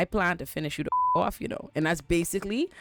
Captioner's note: beep